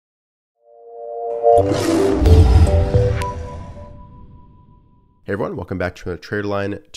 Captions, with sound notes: (lion roar) (introductory music) - Hey everyone, welcome back to a TraderLion